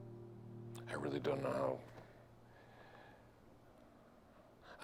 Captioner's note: none